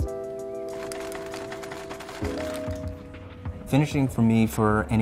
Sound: air clacks

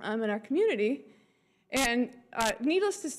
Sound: none

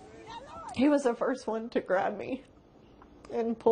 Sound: laughs

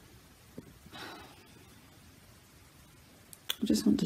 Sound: sighs

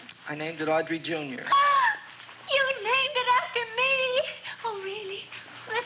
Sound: gasps

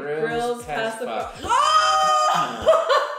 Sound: shouting

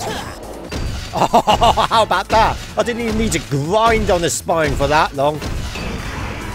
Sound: laughter

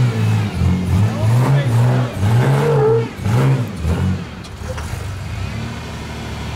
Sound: car engine drowns out

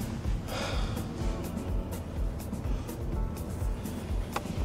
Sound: heavy sighing

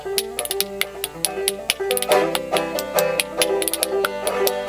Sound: spoons Clacking; upbeat Banjo Music

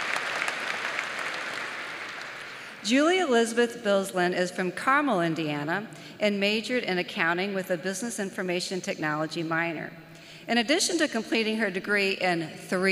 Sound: applause

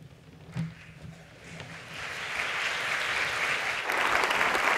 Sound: audience applauds

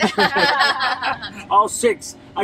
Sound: all laugh

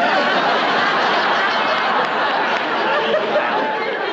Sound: crowd laughing

